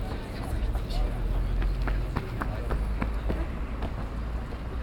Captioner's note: footsteps thudding